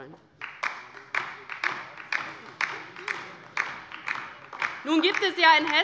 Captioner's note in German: Beifall DIE LINKE